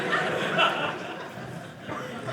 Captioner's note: audience laughing